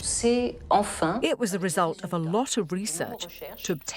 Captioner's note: voiceover